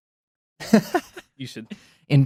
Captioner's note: laughs